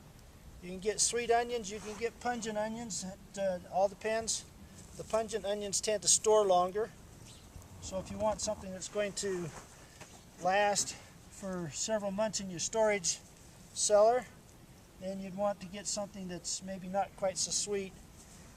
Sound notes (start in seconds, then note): 6.5 birds chirping in distance